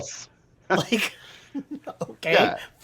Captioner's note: chuckles